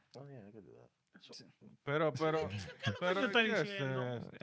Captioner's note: speaking In Foreign Language